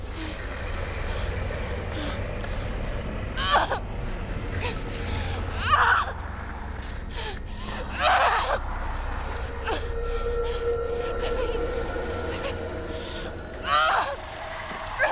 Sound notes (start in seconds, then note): 9.5 crying